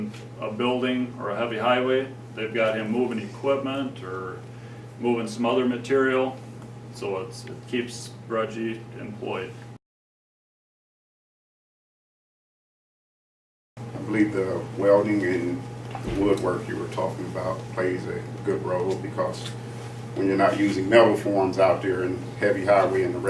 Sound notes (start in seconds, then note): 9.7 silence